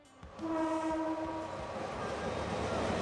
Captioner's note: train horn honking; train engine revving